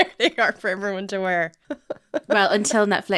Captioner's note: laughing